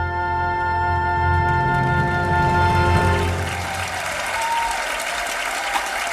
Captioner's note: audience applauding